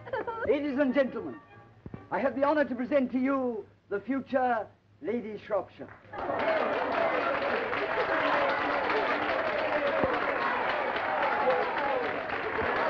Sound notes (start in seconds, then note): 5.9 applause and cheering